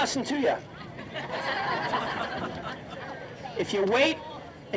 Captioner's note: audience laughing